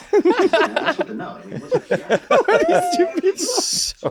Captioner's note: all chuckling